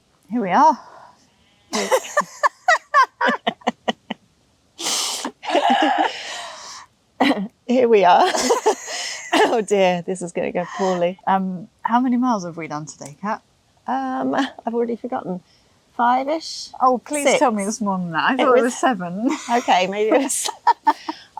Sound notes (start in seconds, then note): 1.7 laughter; 5.2 giggles